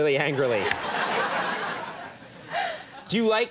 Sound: audience laughing

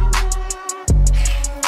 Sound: hissss

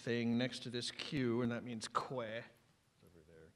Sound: non-english speech

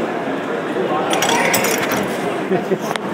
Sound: coin clattering into metal slot

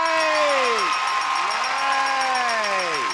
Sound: cheering

